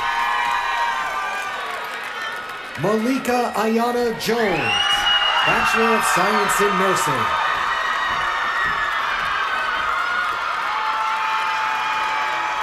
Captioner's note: cheers and applause